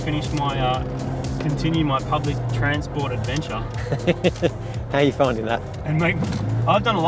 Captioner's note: chuckles